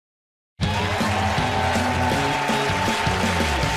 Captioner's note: cheers and applause